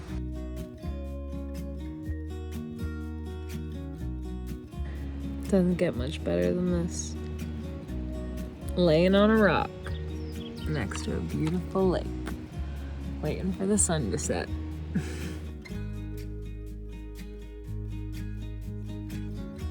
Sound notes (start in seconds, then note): 0.2 lighthearted music continues; 14.9 chuckles; 15.7 lighthearted music continues